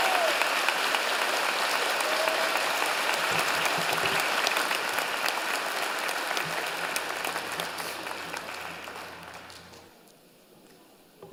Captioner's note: cheers and Applause